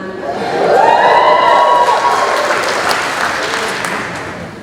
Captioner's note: cheering